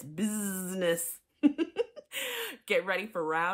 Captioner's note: laughs